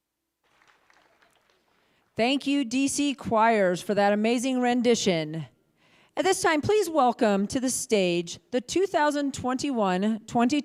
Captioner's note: applause